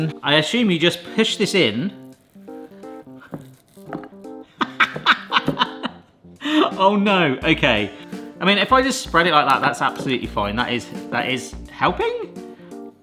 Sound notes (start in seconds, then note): 4.5 laughs